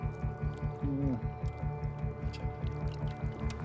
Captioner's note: murmurs